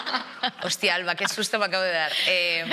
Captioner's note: they laugh